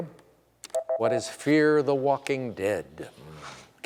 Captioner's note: beep